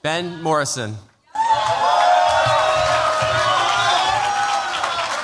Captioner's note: cheers, applause